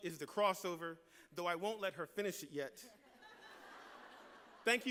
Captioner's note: laughter